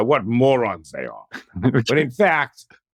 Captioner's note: laugh